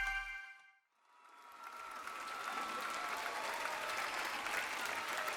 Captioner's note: crowd cheering